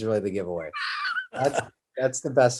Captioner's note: Kevin wheezes